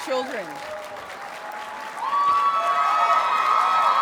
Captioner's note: audience cheers and applauds